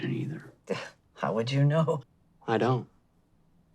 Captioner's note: scoffs